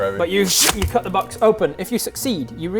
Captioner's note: scching